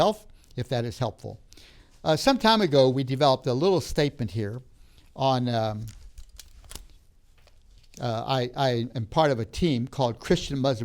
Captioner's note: rustling sounds